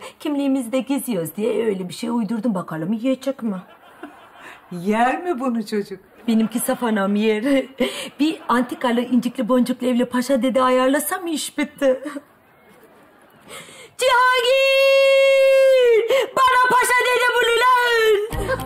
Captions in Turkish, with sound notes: Kimliğimizi de gizliyoruz diye öyle bir şey uydurdum. Bakalım yiyecek mi? (Gülme efekti) Yer mi bunu çocuk? Benimki saf anam, yer. Bir antikalı, incikli, boncuklu öyle paşa dede ayarlasam iş bitti. Cihangir, bana paşa dede bul ulan.